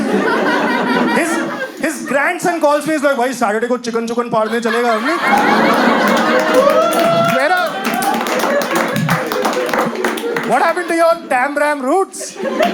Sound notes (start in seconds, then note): 4.8 In a Delhi accent